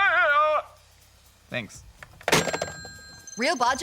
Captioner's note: hangs up phone